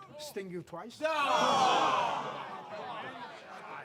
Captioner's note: crowd shout in derision